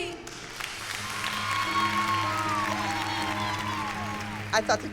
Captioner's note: cheering